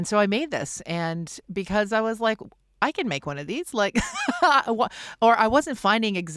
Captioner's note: laughs